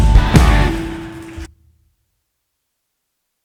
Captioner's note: applause